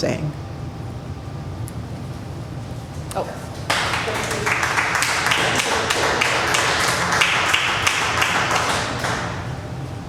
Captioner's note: applause